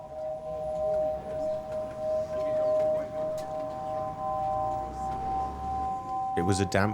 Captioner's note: tone sound and bus atmosphere